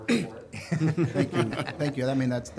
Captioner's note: members laughing